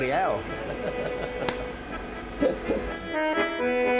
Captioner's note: both laughing; lively accordion music